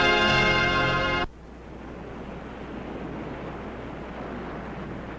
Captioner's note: waves crashing